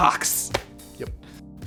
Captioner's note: hand slapping